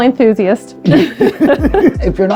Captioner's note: laughing